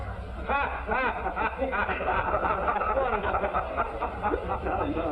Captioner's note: laughter